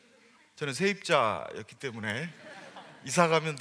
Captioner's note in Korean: 웃음